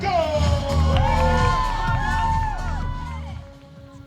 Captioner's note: crowd cheers